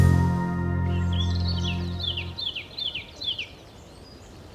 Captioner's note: birds chirping